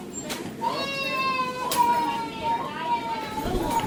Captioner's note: checkout beeping; child crying